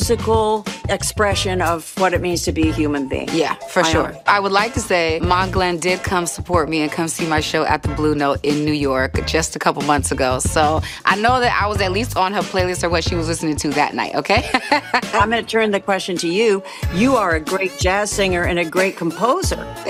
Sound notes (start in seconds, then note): 14.4 laughs